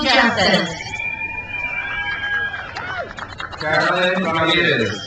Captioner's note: crowd cheers